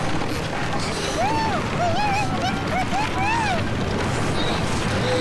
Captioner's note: straining; bird Squawks; loud Rumbling